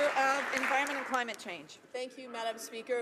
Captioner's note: some Applause